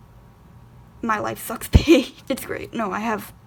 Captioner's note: laughs